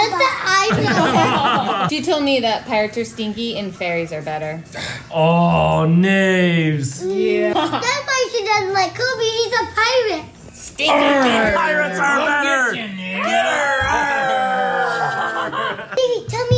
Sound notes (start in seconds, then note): 0.8 laughs